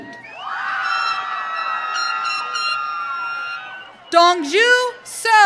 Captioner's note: audience cheering